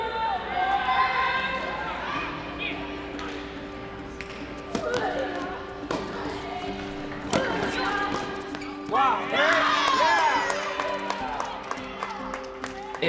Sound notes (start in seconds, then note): 5.6 women grunting; 9.1 crowd cheering